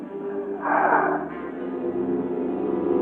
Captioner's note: exhaling